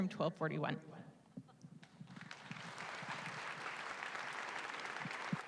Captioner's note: applause